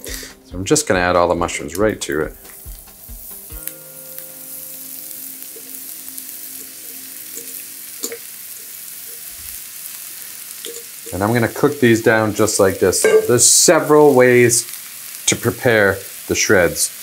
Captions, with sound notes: So I'm just gonna add all the mushrooms right to it. [mushrooms sizzling] And then we're gonna cook these down, just like this. There's several ways to prepare the shreds.